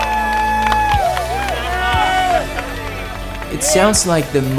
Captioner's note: crowd cheers